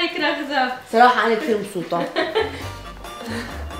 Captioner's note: laughs